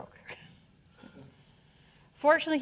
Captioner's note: chuckling